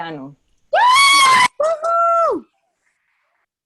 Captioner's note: cheering